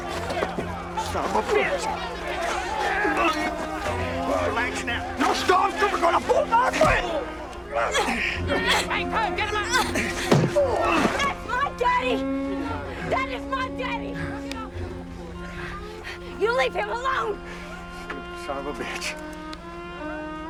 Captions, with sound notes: Son of a bitch. (men arguing) - No storm trooper's gonna bulldog me! (grunting) - That's my daddy! That is my daddy! You leave him alone! - Son of a bitch.